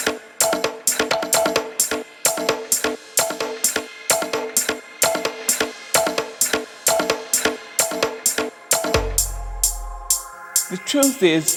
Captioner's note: waves surging then crashing